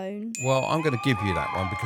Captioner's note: bell dinging; crowd cheering